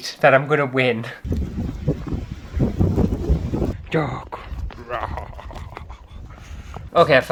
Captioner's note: cold Wind